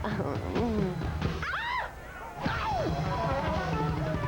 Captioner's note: screams